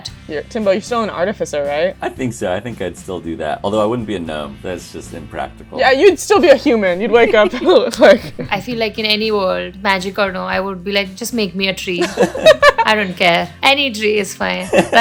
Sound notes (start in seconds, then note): 7.1 laughs; 12.0 laughter